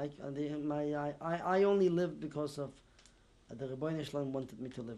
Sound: non-english

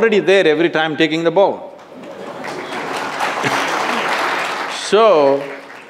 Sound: laughter/Applause

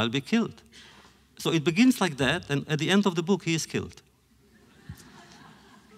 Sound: laughter

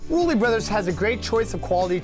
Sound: voiceover

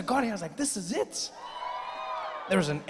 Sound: audience cheering

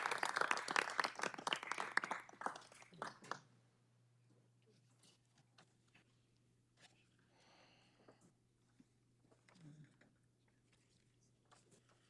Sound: applause

